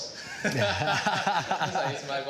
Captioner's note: both laughing